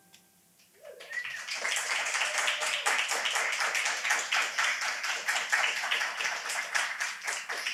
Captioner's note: audience clapping